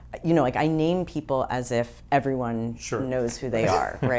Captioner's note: laughs